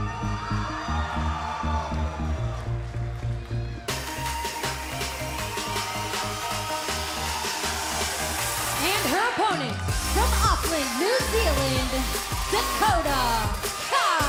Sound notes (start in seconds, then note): 7.5 cheers and applause